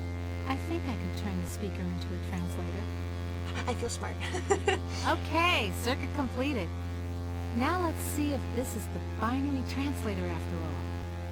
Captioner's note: giggles